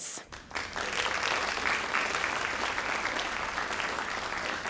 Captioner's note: crowd applauding